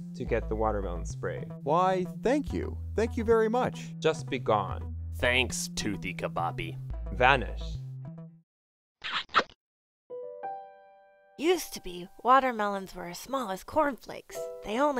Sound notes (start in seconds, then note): 9.0 kissing